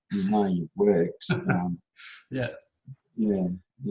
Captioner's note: laughs